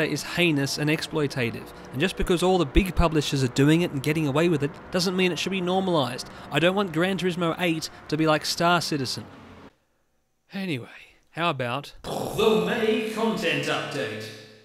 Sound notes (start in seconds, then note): 12.0 sighing